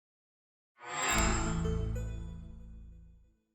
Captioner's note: chime